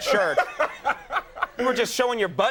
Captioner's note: Will laughing